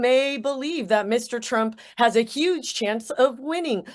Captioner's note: none